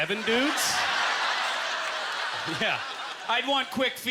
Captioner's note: audience laughter